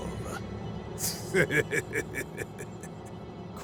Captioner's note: sinister laugh